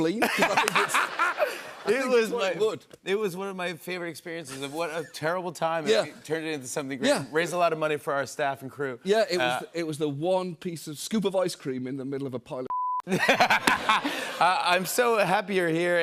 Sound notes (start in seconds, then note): 0.2 laughter; 13.0 laughter